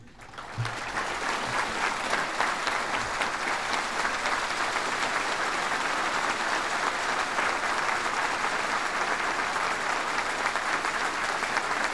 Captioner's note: applause